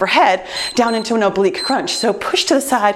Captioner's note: timer beeps